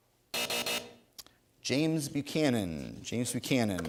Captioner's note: three buzzes